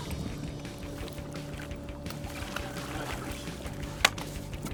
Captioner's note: fish splashing